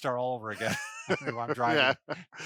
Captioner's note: laughs